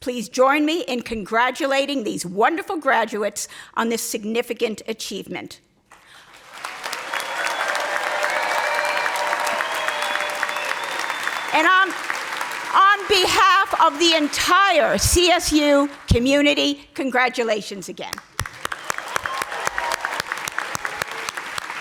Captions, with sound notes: please join me in congratulating these wonderful graduates on this significant achievement. (audience applauding) And on on behalf of the entire CSU community, congratulations again. (audience applauding)